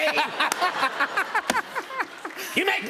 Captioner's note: laughter